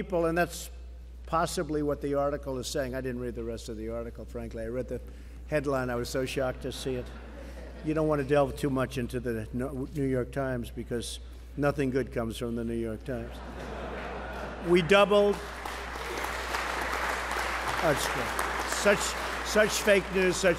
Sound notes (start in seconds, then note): 13.3 laughter; 14.8 applause